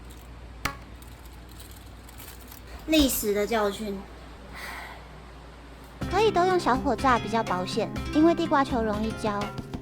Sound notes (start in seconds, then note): 4.5 sigh